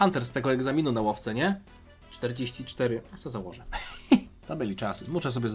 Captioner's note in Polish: śmiech